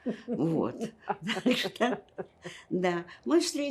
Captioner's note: laughing